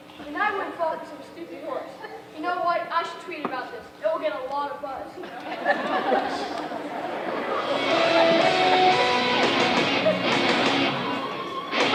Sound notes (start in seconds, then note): 5.2 audience laughing